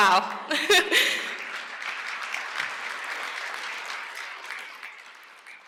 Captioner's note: applause